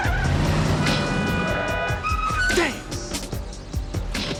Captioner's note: tires screeching